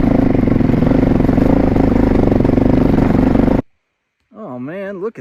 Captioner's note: sweet, sweet engine sounds